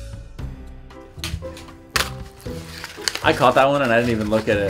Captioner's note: paper clattering